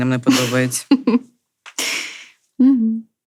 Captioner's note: laughter